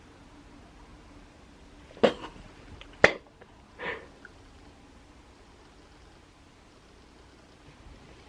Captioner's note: crying